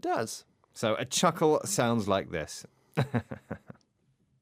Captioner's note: chuckles